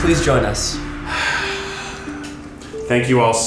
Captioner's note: sighs